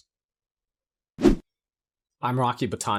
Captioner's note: graphics whooshing